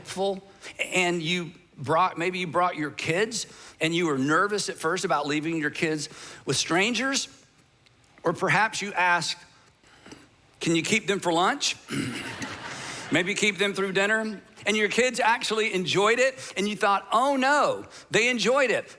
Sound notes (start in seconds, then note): 12.2 audience laughing